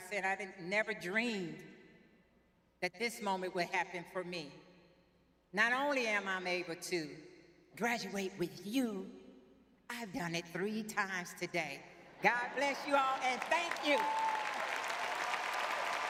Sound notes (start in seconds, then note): 12.3 laughs